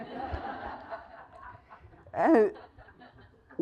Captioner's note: laugh